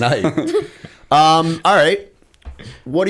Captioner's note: laughter